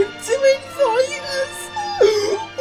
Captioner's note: squeal!